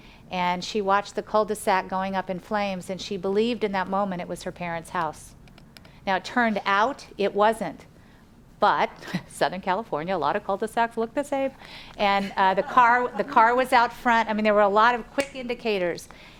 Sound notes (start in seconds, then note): 12.4 audience laughs